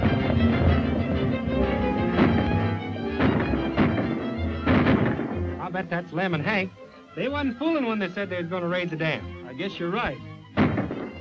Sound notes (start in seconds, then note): 3.0 guns firing